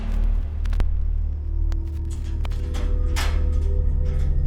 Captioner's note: brooding music; static crackles